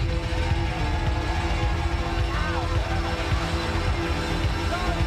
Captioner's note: crowd cheers